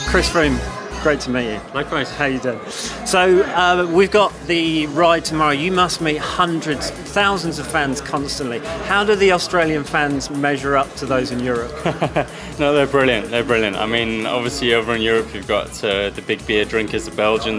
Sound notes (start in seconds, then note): 11.6 Chris laughs